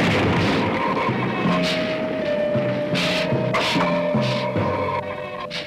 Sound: explosion booms; Gila monster hissing

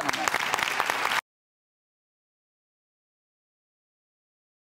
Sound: audience applauding

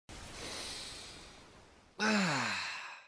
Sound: inhales

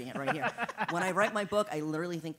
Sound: laugh

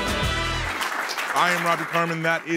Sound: fast upbeat music; audience clapping

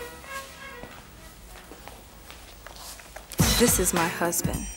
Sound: footsteps

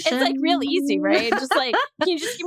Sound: laughs, sighs

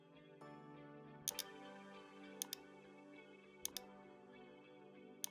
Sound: mouse clicking

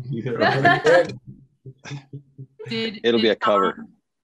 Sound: laughs loudly

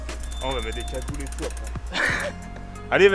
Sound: laugh

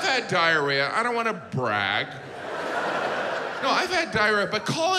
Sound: audience laughs

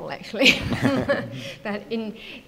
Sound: laughing

